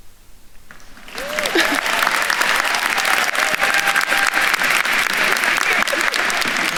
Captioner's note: attendees cheering and applauding